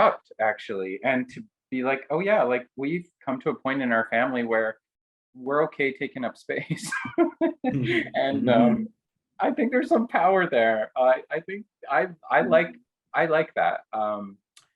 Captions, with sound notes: disrupt actually, and to be oh yeah, we've come to a point in our family where we're okay taking up space (laughs). And I think there's some power there. I think I like that,